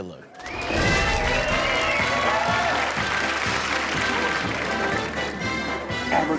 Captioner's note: audience cheering and clapping; upbeat music